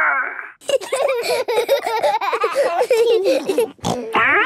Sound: giggling; snorting

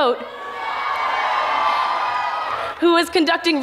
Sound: audience cheers

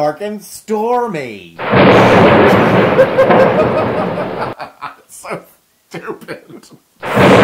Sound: laugh

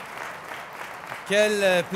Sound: applause

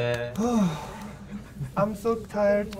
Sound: sighs

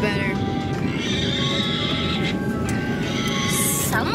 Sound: pig squeals

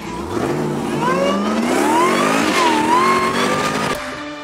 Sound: car engine revs

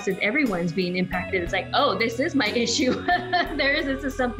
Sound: laughing

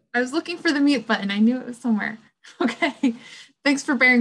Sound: chuckles

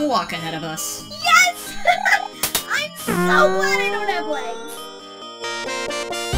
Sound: giggles

